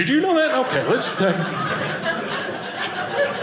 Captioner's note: audience laughing